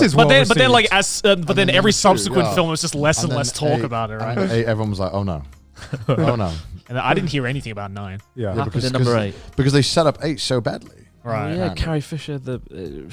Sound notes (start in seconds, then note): 5.7 chuckles